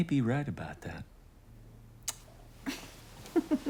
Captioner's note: chuckles